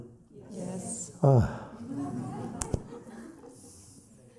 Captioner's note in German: seufzt